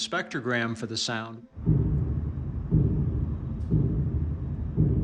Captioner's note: rhythmic deep thumping